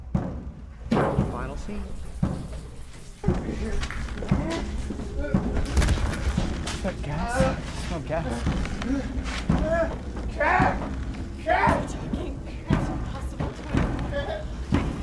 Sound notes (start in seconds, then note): 3.5 Cross grunts in pain; 5.2 thud